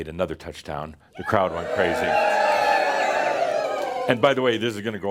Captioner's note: audience cheers again